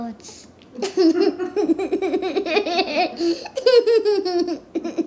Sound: laughing

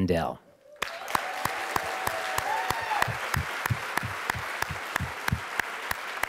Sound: audience cheering and applauding

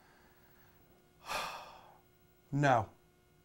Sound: sighs

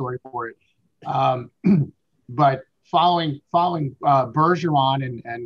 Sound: throat clearing

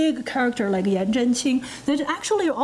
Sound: foreign language

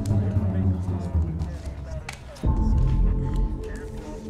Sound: cards flick

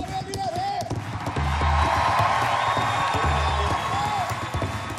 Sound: instrumental; applause; instrumental

